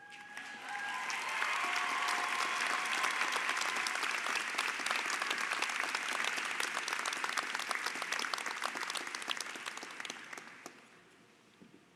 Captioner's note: Applaudissements